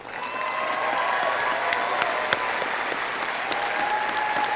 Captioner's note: audience applauding